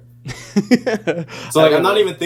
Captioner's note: laughing